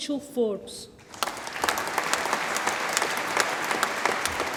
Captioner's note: audience applauds